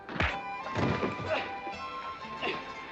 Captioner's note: pop, pop, pow, bam; thump